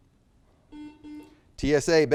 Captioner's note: buzzer beeps